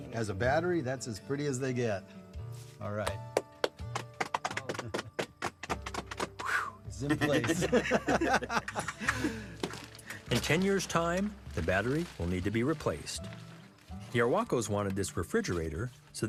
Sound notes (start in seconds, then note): 3.3 applause; 7.0 laughter